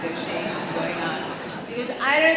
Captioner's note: audience laughing